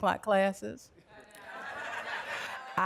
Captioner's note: laughter